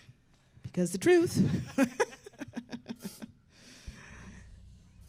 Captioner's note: laughs